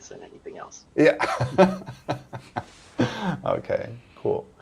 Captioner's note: laughter